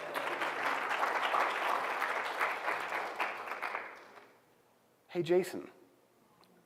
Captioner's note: applause